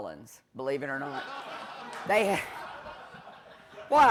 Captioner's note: laughter